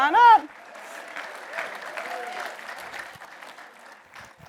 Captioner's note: audience applauds